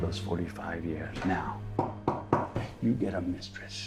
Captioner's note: knuckles tapping